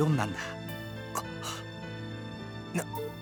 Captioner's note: gasp